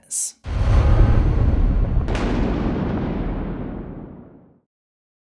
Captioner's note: thunder